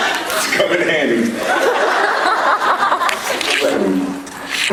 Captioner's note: laughing; laughs